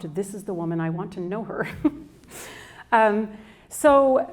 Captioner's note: chuckles